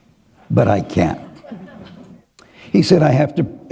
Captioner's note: laughter